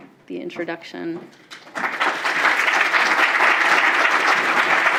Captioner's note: applause